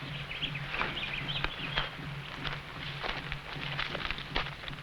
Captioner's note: birds chirping